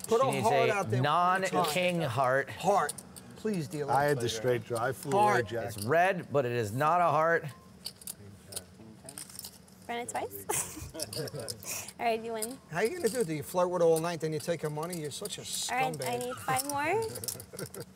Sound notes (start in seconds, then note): 10.5 laughs